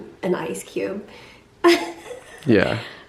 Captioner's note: chuckles